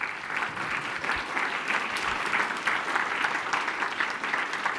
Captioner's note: applause